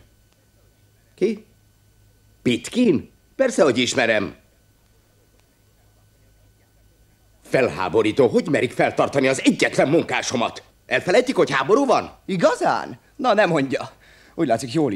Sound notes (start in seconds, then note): none